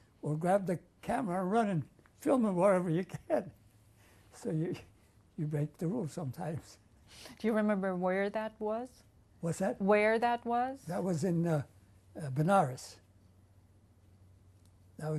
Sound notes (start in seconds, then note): 3.5 laughs